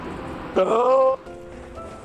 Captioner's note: pvv noises of despair